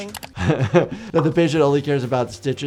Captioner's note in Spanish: se ríe